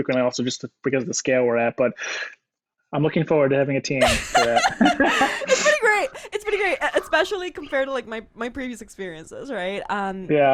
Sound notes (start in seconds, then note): 4.0 laughs